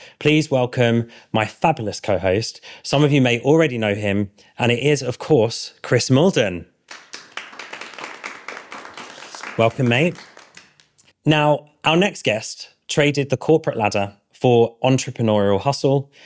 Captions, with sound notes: please welcome my fabulous co-host. Some of you may already know him, and it is of course, Chris Malden. (audience applauding) Welcome, mate. Now, our next guest traded the corporate ladder for entrepreneurial hustle